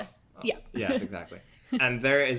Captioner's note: laughs